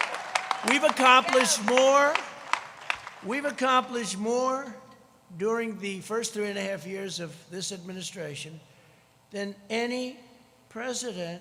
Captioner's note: applause